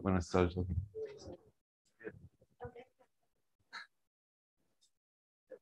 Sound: indistinct conversation

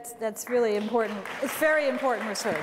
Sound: applause

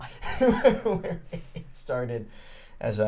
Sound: laughing

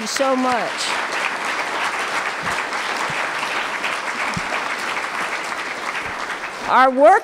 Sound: applause

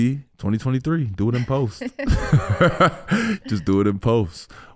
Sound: Amber and Iman laughing

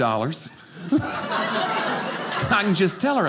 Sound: audience laughing

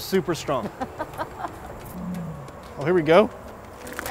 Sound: laughs

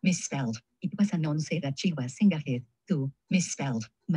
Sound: speaking in foreign language

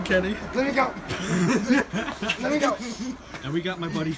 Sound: laughing

